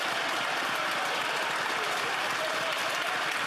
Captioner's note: some Applause